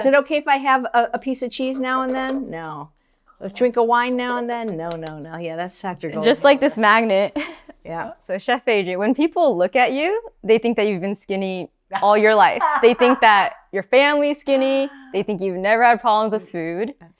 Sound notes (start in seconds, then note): 7.3 laughs; 12.6 laughs